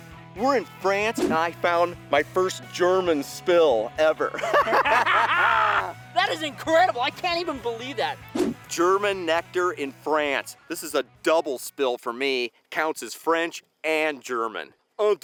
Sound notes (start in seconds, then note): 4.3 laughs